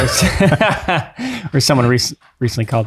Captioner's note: all laugh